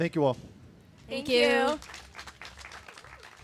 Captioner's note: crowd applauds